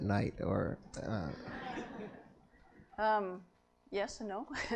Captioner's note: laughter